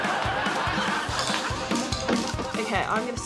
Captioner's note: laughter